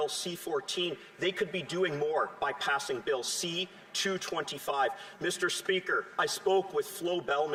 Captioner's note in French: voix de l'interprète